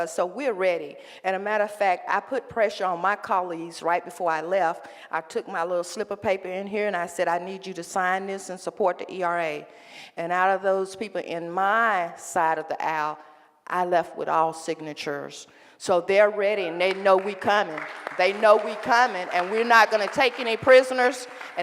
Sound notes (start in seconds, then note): 16.8 applause